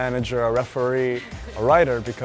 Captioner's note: laugh